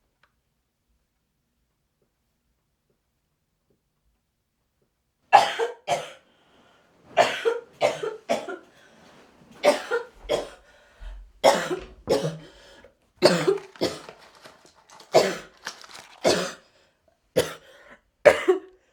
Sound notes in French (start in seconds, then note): 5.3 Tousse